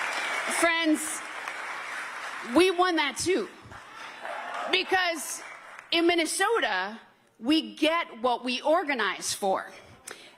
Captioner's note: cheers and applause